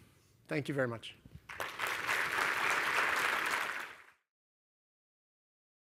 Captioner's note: applause